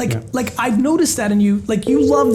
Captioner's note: phone rings